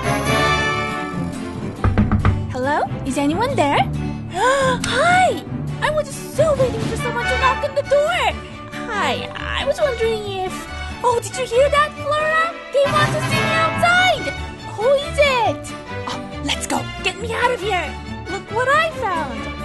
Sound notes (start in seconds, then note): 1.8 knock knock